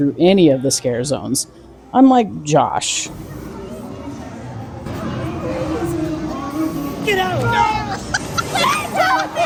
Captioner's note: screaming